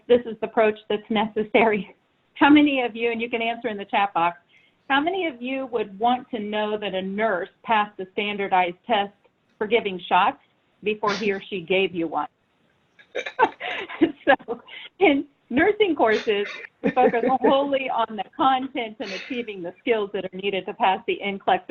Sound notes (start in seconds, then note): 13.1 all laughing